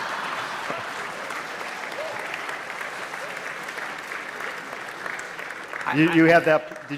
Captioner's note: applause